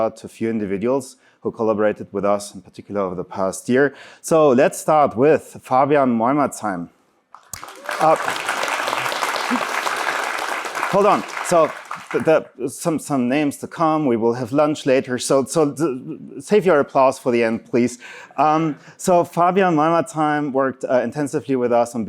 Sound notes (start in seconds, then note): 7.3 applause